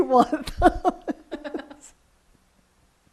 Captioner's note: laughs